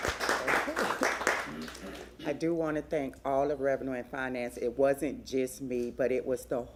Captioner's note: applause